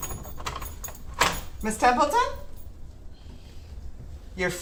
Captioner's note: door handle clacks; door rattles; keys jangle; Nev breathes